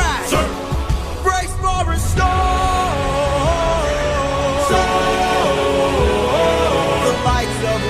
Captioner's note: storm